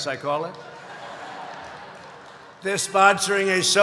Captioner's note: laughter